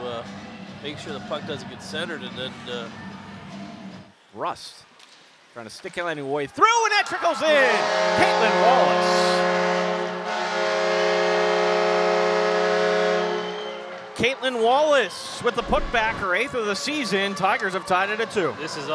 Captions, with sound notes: able to make sure the puck doesn't get centered and then-- >>Rust, trying to stick her way through! And that trickles in. Caitlin Wallace. [horns] Caitlin Wallace, with the putback, her 8th of the season, the tigers have tied it at 2.